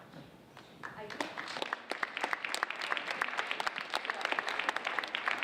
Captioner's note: audience applauding